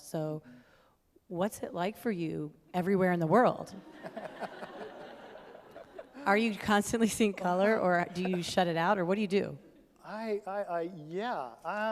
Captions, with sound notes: So what's it like for you, everywhere in the world? (all laugh) Are you constantly seeing color, or do you shut it out? Or what do you do? - I, I, I, yeah.